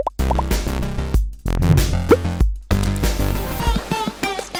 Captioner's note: upbeat music; bubbles popping